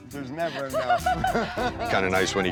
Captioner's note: laughter